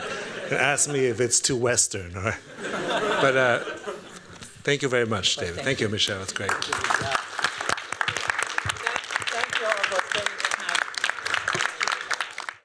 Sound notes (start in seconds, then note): 2.4 laughter; 6.1 applause